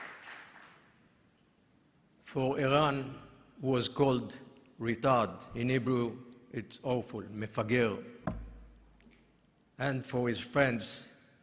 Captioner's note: applause